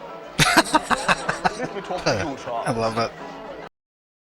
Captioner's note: laughing